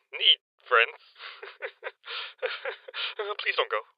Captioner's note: awkward laugh